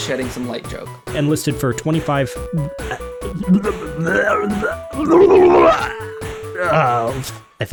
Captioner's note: zombie transformation noises